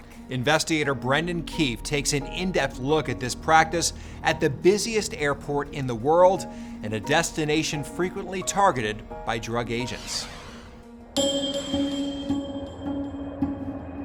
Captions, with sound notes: - Investigator Brendan Keefe takes an in-depth look at this practice at the busiest airport in the world and a destination frequently targeted by drug agents. (whooshing) (upbeat music)